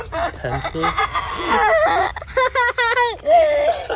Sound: laughing

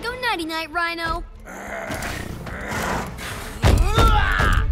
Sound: grunting

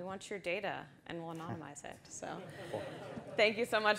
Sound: audience laughs

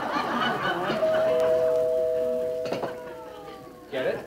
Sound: audience laughing; bell rings

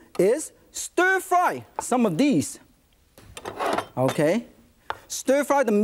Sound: none

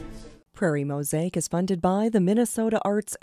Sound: voiceover

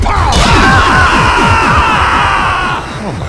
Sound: screams

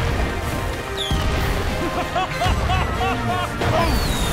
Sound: laughing

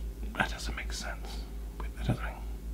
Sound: whispering

